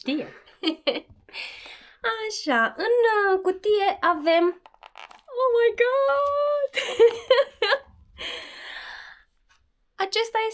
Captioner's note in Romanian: Râsete